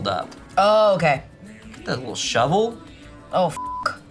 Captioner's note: beep